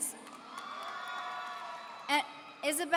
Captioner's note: audience cheering